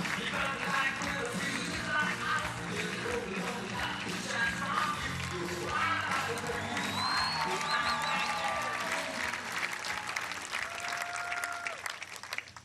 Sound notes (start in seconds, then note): 2.0 applause